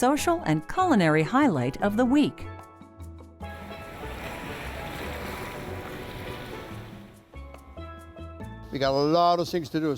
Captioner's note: water running